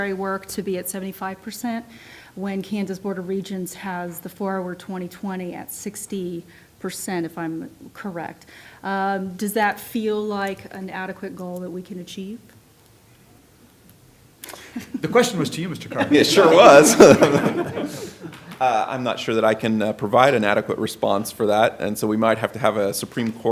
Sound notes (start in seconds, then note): 15.9 laughter